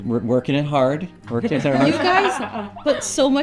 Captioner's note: laughs